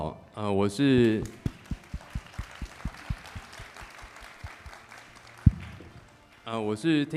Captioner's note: applause